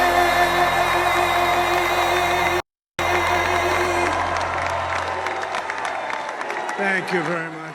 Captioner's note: applause